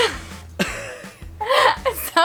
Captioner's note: laughs sarcastically